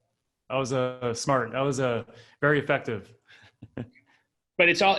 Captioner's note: laughs